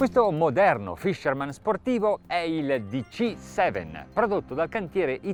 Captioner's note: speaking foreign language